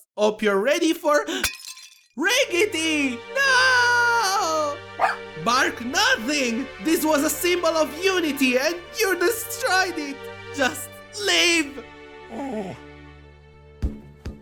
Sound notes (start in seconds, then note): 1.1 gasp; 1.4 bowl shatters; 5.0 sprinkles barks; 12.2 sprinkles whimpers